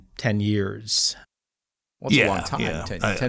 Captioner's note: general agreement